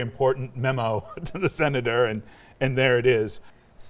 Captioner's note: laughs